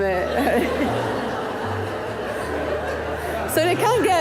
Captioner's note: audience laughing